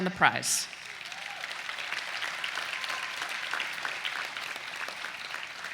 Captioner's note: students clapping